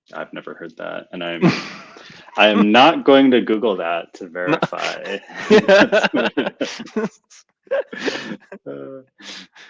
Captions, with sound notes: - I've never heard that. I'm not going to Google that to verify. (both laughing)